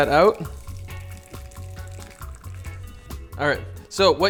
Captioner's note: dripping